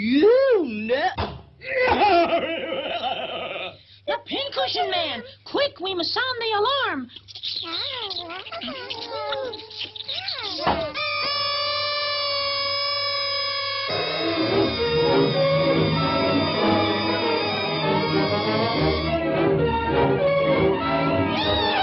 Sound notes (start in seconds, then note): 0.9 balloon pops; 2.1 Pin Cushion Man cackles; 7.1 babies cooing and sucking; 10.6 babies wailing; 13.9 dramatic music; 14.5 babies wailing; 19.7 dramatic music continues